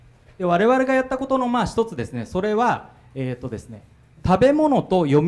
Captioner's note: speaking foreign language